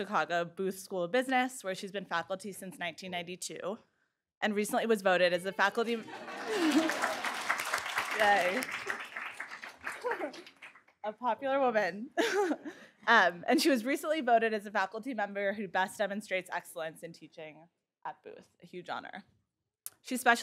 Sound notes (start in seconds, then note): 9.2 applause; 12.5 laugh